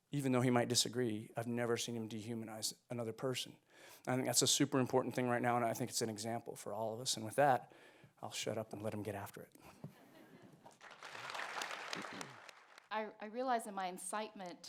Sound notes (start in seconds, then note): 10.6 audience clapping